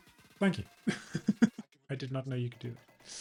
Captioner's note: laughs